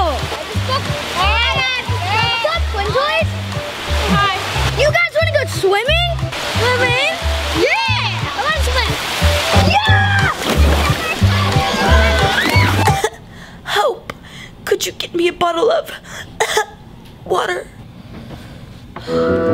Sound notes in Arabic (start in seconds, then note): 0.2 الجدال بصوت عال; 10.5 ضوضاء الرش; 10.8 السعال; 16.4 السعال